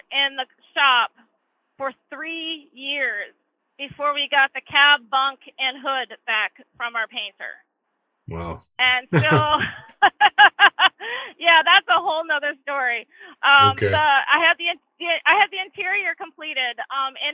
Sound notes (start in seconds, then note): 9.1 chuckles